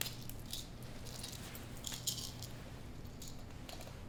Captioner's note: pills rattle